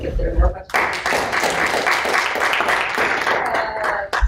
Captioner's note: applause